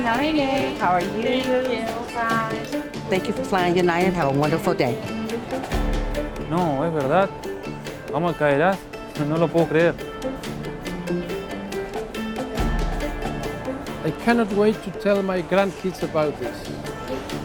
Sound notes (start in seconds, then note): 6.4 in Spanish